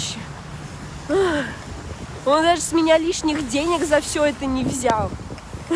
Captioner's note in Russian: вздох